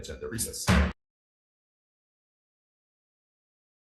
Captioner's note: gavel bangs